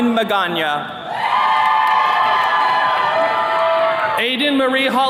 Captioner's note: attendees cheering